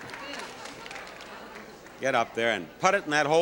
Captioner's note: audience applauding